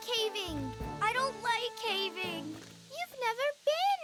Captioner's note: nervously